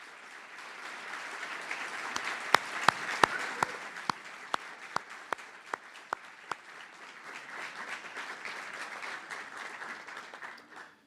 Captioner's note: applause